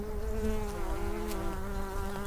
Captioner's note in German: Summen